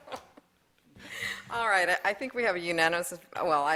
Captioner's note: laughter